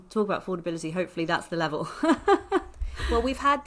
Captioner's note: laughs